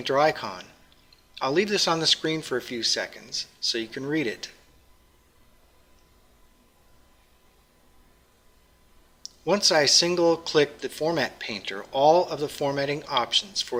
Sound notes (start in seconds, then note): 4.6 pause